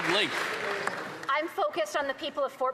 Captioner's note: some Applause